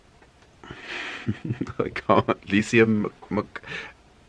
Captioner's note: laughs